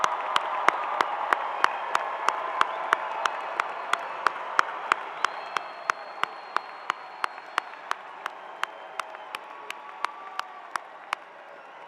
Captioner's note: cheering